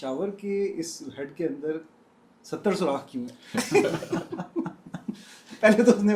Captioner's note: laughter